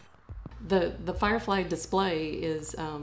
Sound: voiceover

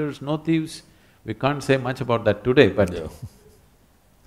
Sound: laughs

